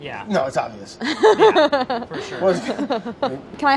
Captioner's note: laughs